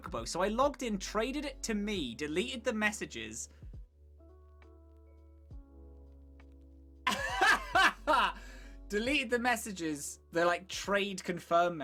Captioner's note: laughs